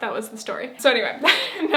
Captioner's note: laughs